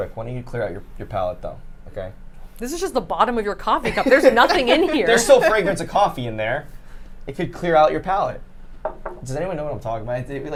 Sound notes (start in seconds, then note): 3.8 group laughs